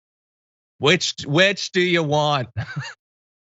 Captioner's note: laugh